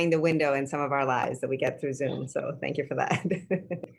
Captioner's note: laughter